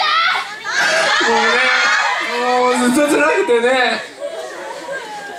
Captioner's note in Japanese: 泣きながら